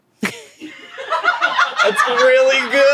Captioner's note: everyone laughs